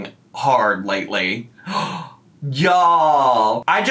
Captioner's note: gasps